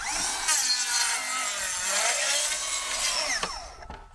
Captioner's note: saw buzzing